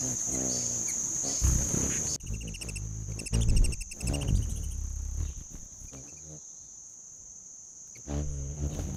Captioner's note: birds chirping; bird's wing flapping